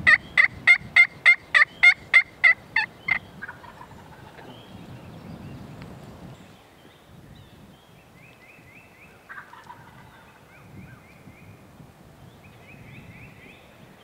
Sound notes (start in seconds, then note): 1.0 clucking continues; 3.4 turkey gobbling